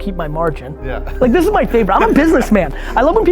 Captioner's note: laughs